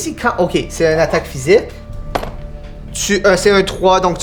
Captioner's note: die rolling